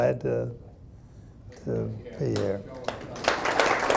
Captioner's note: audience applauding